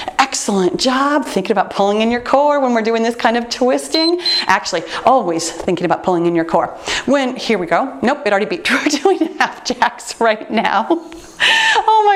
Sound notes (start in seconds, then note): 3.9 timer beeps; 11.3 laughs